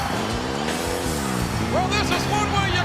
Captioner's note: ATV engine roaring